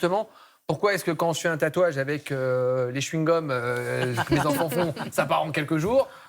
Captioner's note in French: rires